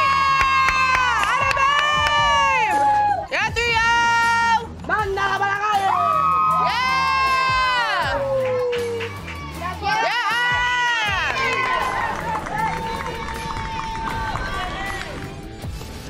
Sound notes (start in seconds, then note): 5.1 cheers; 11.0 applause